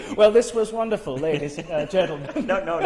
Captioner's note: laughs